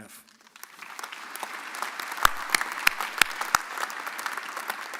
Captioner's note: audience applauding